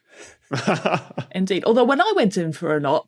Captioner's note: chuckles